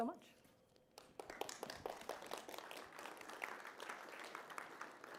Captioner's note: applause